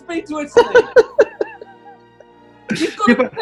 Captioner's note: giggling